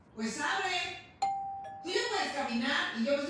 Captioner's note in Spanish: Timbre de la puerta